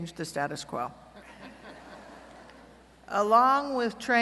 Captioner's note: laughter